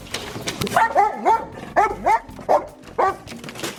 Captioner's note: dogs barking